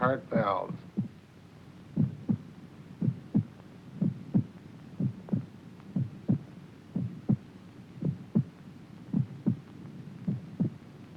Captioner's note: heart lub dub sound